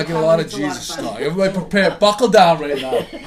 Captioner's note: voiceover